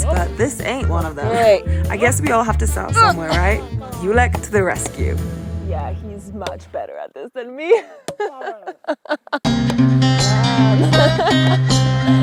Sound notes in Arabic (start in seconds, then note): 7.6 يضحك; 9.5 موسيقى الريف